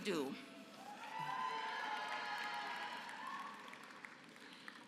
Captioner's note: applause